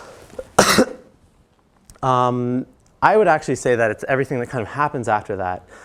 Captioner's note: cough